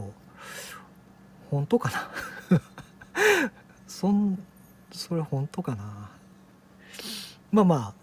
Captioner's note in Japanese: 笑い